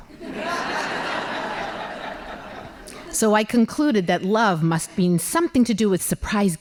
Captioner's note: laughing